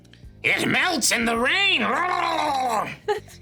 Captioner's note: trilling tongue; Sarah laughs